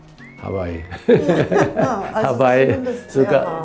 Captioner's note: both laugh